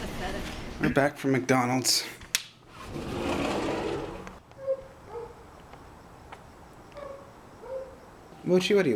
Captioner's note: distant barking